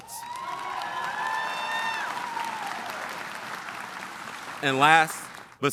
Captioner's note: audience applauding and cheering